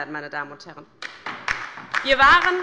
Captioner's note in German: Beifall bei der LINKEN